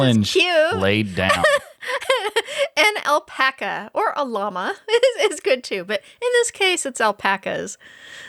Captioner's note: laughing